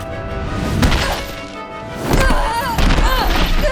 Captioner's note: grunting